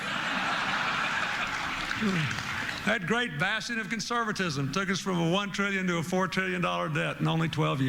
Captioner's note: laughter